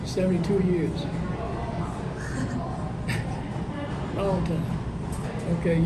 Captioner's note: laughs